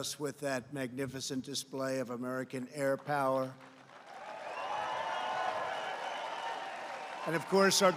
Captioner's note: applause